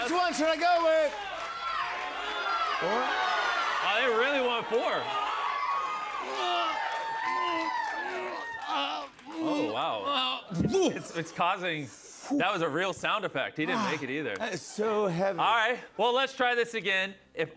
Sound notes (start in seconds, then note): 1.7 audience shouting; 6.7 grunting